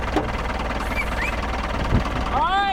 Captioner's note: whistling